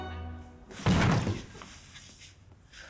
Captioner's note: thud